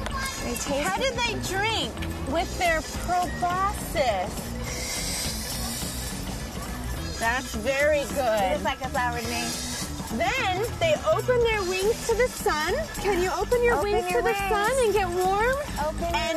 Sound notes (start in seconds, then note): 4.4 slurping